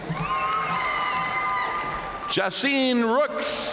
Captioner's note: audience cheering and applauding